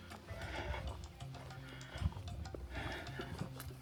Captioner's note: panting